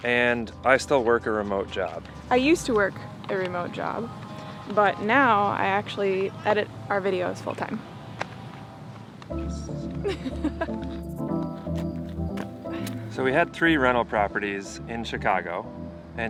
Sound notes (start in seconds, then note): 9.9 laughs